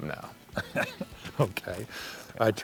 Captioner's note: laughs